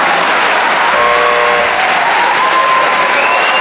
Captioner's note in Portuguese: campainha